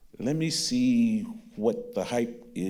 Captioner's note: none